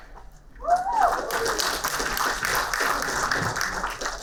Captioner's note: applauding